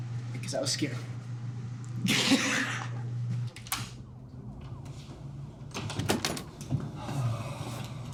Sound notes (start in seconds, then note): 2.3 laughing; 5.8 door unlocks